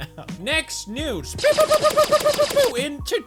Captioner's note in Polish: pew pew pew pew